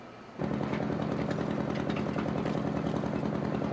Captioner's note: engine idles